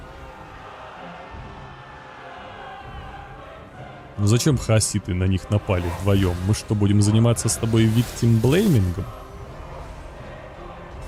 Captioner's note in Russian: ликование